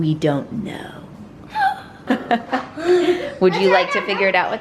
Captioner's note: gasping